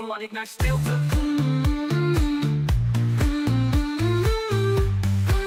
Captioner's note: mmm, mmm